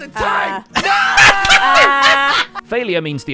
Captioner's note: laughs